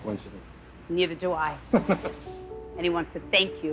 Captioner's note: chuckles